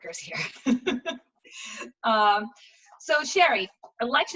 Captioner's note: laughs